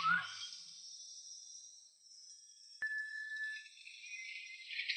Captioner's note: bells chiming